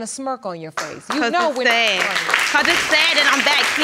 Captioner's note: audience applauds